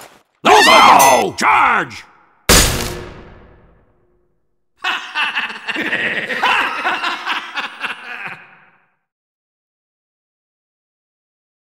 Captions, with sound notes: Go go go, charge! *soldiers laughing*